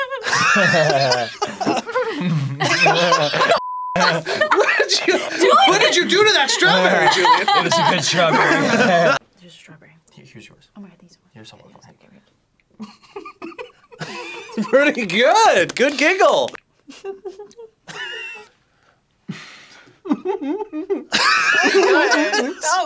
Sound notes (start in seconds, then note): 0.0 giggles; 0.0 laughs; 2.2 chortles; 2.2 laughs; 12.9 giggles; 16.7 wheezes; 16.8 giggles; 20.0 giggles; 20.0 laughs